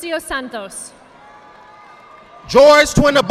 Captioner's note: audience applauding